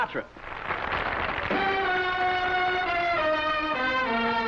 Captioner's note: applause